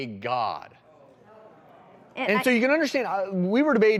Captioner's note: audience chatter